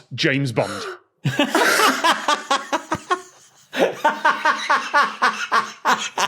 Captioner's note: cackles, wheezes